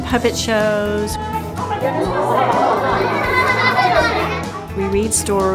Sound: laughter

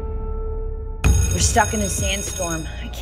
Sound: sustained piano note; bell ringing

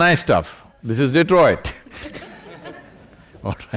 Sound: laughter

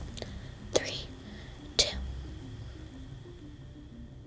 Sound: whispering

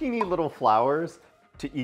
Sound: graphic pops

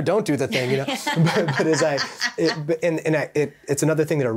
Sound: chuckling

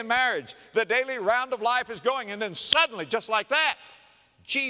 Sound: clap

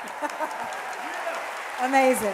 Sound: audience applauding

